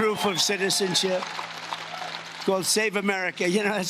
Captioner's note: cheering and Applause